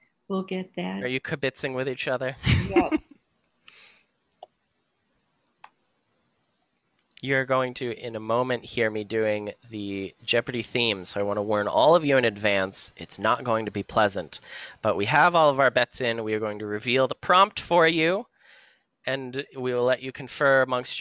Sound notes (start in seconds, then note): 4.3 silence